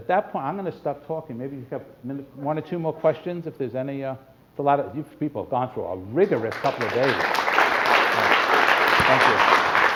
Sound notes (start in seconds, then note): 6.4 applause